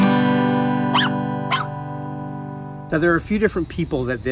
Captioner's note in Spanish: cachorro ladrando